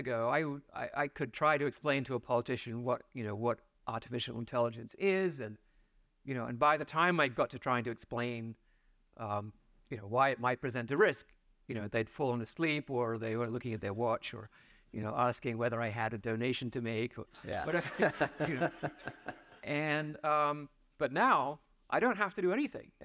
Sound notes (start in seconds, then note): 17.4 laughs; 17.5 audience laughs